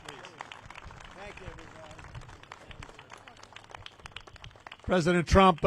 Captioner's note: applause